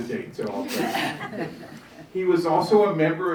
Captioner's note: audience chuckling